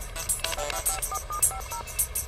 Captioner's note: cell phone dialing